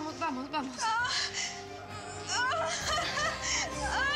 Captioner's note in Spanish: gemidos y gritos